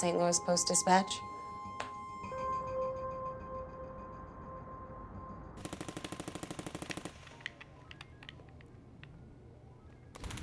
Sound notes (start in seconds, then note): 2.5 expressive electronic tone; 5.6 gunfire rattling from video game; 7.2 controller clacking